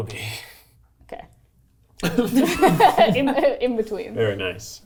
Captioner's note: everyone laughing